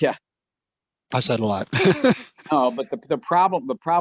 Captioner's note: laughs